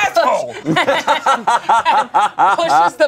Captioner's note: everyone laughs